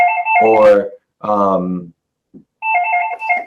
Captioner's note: phone rings